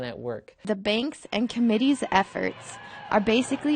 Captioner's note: voiceover